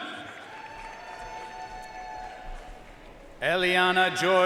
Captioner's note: audience cheering and applauding